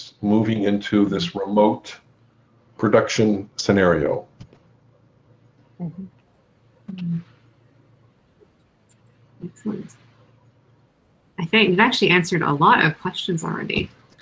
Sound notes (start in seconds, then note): none